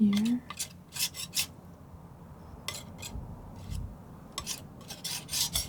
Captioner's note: scratching